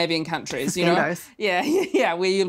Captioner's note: laughs